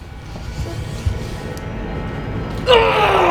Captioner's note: menacing music; yelling